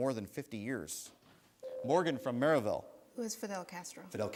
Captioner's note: buzzer sounds